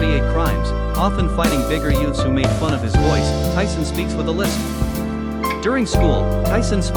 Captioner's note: Tyson speaks with a lisp